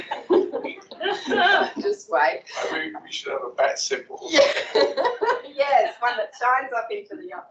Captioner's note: laughs